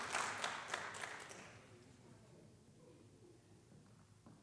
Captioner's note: applause